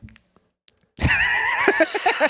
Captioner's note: laughing